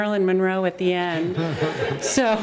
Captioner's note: laughter